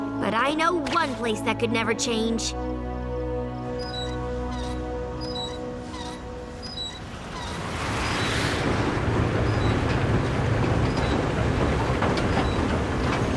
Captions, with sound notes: but I know one place that could never change. [squeaking] [hum of machinery]